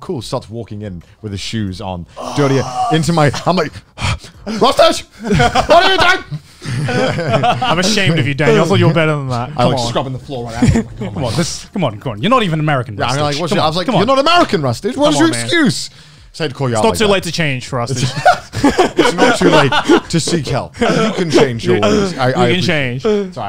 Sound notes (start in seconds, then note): 5.1 laughing